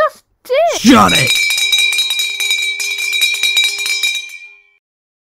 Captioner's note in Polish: Dzwonek dzwoni